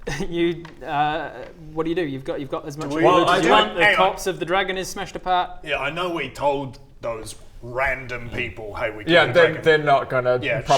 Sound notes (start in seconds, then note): none